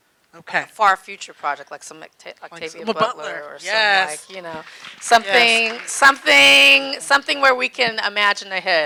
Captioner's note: audience clapping